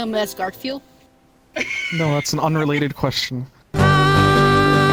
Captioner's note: background laugh